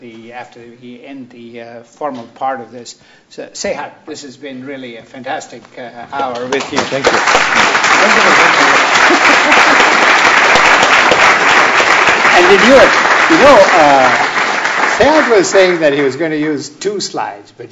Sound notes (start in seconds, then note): 6.3 applause